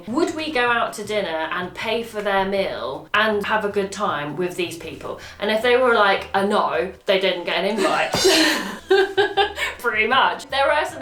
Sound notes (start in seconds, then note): 7.8 laughing; 8.1 cymbal crash